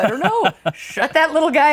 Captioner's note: laughing